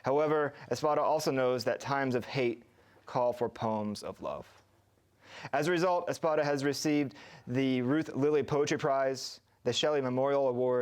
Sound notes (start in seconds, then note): none